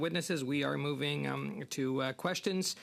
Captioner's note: speaking French